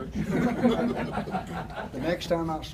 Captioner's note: audience chuckles